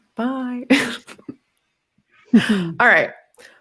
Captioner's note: laughs